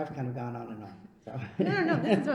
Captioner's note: laughs